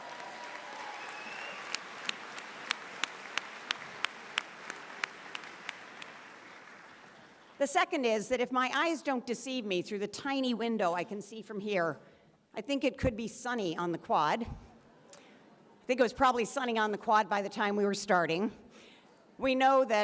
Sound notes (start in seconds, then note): 3.5 applause